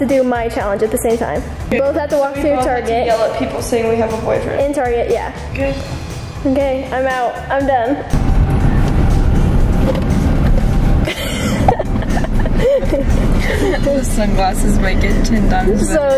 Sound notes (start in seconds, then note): 11.0 laughing